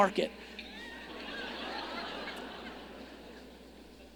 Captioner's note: audience laughing